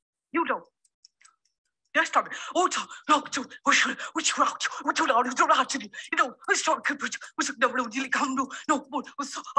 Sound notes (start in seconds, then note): 0.3 speaking gibberish; 2.4 chanting gibberish